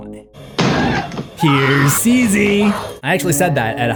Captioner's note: Wendy screaming